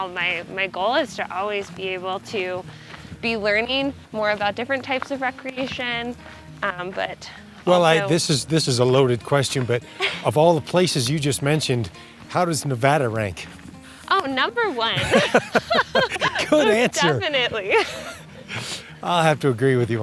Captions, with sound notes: so overall my goal is to always be able to be learning more about different types of recreation. -Well, this is a loaded question, but of all the places you just mentioned, how does Nevada rank? -Oh, number one! (laughter) Good answer! -Definitely.